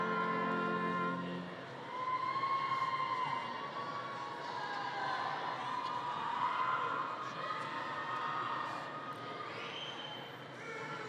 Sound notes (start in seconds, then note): 2.5 people chattering